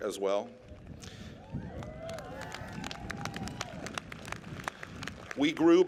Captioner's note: applause